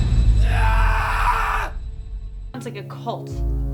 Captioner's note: suspenseful music; man screaming